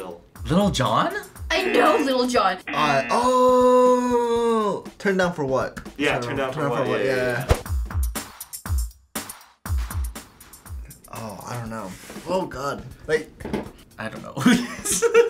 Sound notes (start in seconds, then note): 2.6 buzzer; 15.0 laughs